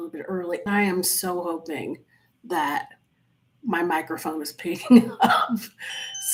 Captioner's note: chuckles